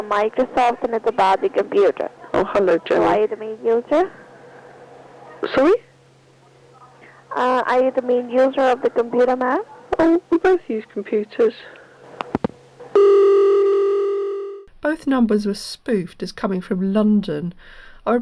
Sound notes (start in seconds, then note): 13.0 click.... dialling tone